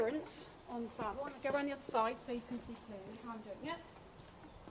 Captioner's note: sound of movement